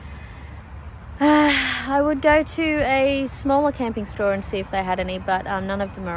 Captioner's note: sighs